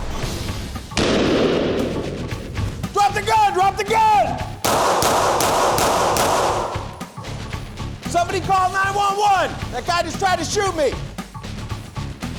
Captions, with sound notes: (gunshot) - Drop the gun! Drop the gun! (gunshots) - Somebody call 911! That guy just tried to shoot me.